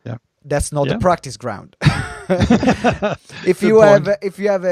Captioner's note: laughs